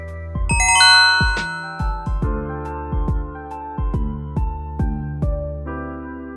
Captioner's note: chill music; electronic bell dings